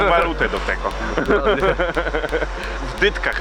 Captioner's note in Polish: śmiech